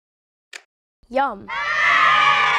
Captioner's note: cheers